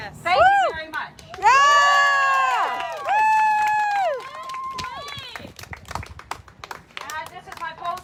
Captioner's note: cheering